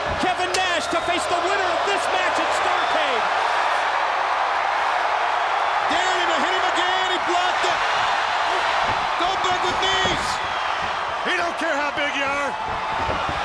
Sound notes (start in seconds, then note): 0.0 crowd cheering; 3.8 crowd cheering; 6.1 crowd cheering drowns out commentators